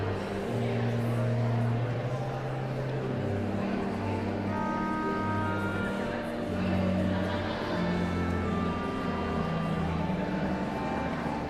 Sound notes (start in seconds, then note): 0.1 pensive organ music continues; 4.7 audience chattering continues